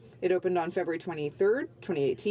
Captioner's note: speaking French